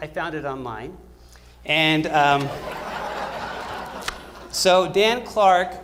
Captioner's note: laughter